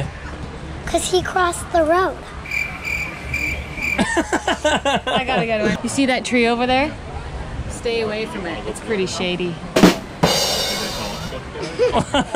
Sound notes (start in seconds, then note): 2.4 crickets chirping; 3.9 laughs; 9.7 drum roll